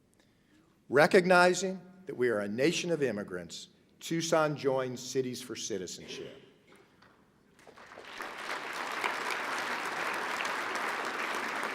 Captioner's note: applause